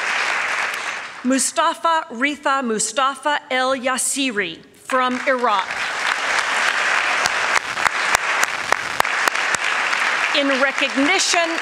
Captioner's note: applause